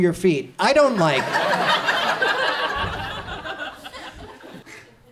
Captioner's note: audience laughs